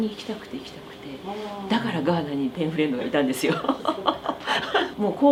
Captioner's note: laughs